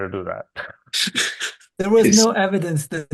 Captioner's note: laughing